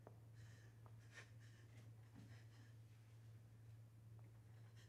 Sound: Michelle gasping

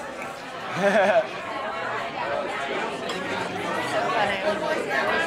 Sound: Stephen laughs

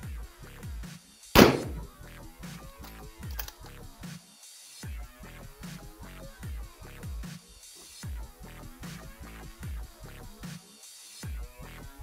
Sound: gun Shots

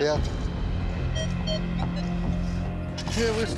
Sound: beeping

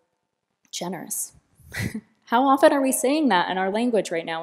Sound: laughter

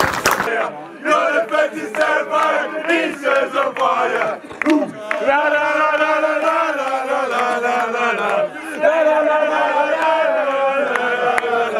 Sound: chants

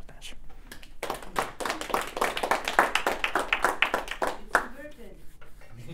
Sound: group clapping

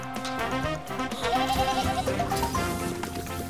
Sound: bleating

